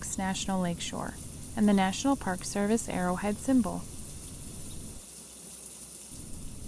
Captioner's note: rain sounds